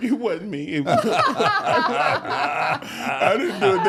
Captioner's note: all laughing